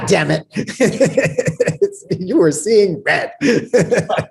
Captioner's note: laughs